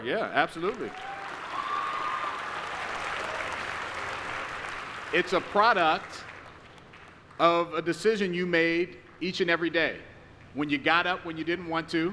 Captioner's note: applause